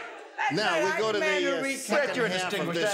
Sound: overlapping yelling

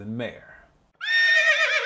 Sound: horse Whinny

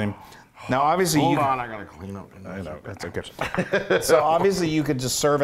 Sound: laugh

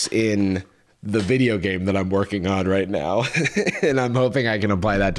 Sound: laughs

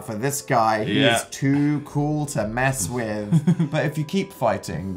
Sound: laughs

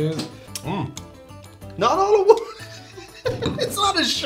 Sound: heheheheheh

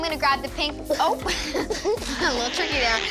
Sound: laughter

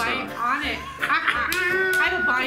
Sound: laughing

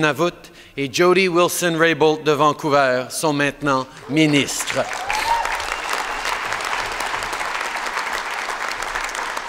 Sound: applause

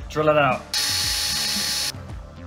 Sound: drilling

